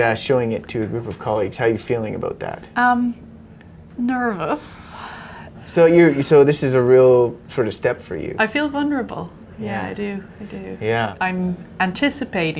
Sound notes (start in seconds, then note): none